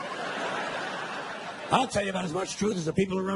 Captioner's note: audience laughing